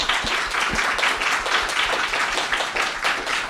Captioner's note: applause